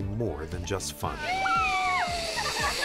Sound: woman yells; members laughing

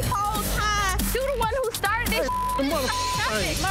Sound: beep

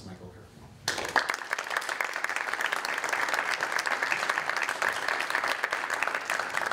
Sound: applause

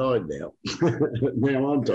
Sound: laughs

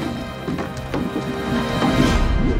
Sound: none

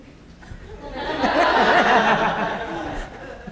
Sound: laughter

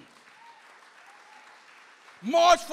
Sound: audience applauds

